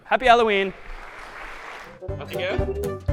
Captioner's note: applause